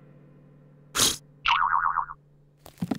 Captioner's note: blows